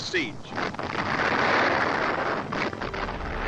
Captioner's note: bomb booms; dramatic music